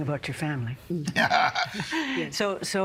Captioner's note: laughing